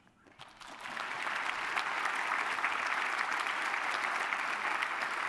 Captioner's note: applause